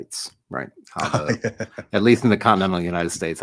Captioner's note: laugh